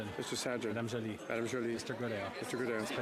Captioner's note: speaking French